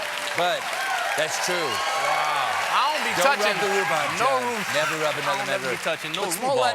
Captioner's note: applause